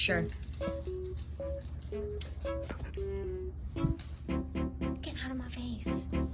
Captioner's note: skid breathing